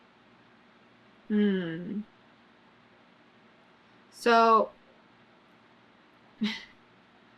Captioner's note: laughs